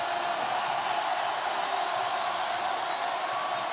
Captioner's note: crowd cheers